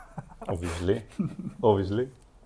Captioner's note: laughs